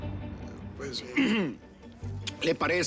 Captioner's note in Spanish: carraspea